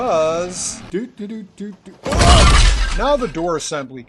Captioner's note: crash!!